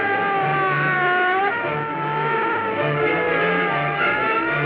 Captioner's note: bike engines roaring